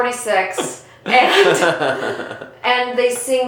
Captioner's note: laughing